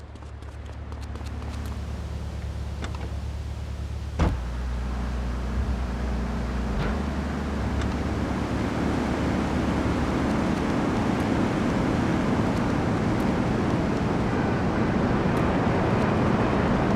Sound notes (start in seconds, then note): 0.0 footsteps; 3.5 car engine rumbling